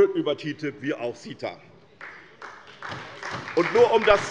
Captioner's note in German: Beifall bei der SPD